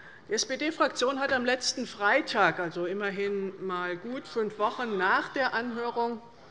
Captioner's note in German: none